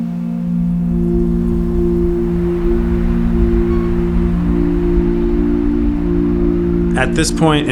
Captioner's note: snow Falling and Wind Rustling